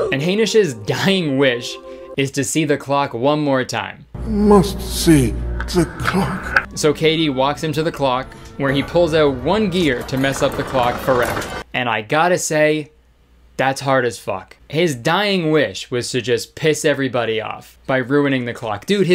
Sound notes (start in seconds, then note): none